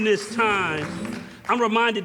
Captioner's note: crowd clapping